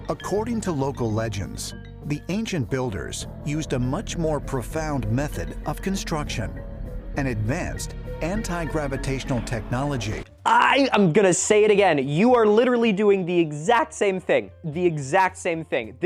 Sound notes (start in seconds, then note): 10.7 exasperated